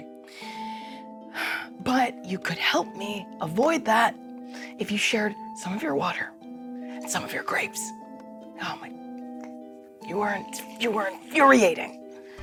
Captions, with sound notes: (sighs) But you could help me avoid that if you shared some of your water and some of your grapes. Oh my, you're infuriating.